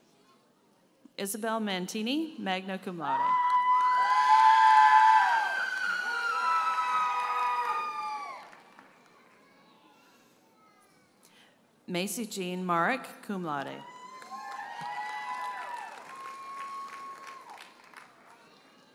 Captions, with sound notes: Isabelle Mantini, magna cum laude. (audience cheers and applauds) Macy Jean Marek, cum laude. (audience cheers and applauds)